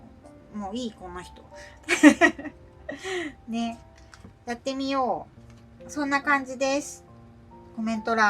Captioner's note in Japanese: 笑い